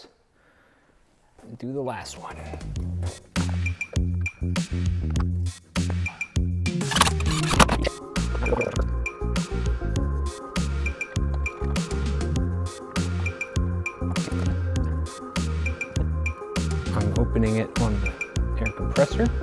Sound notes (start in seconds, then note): 3.7 upbeat music; 6.8 drill whirring; 14.6 upbeat music